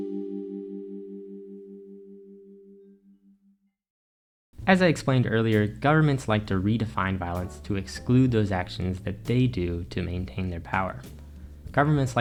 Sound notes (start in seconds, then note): 0.0 transition ding